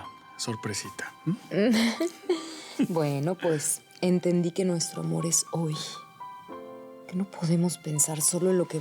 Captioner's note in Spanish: Risas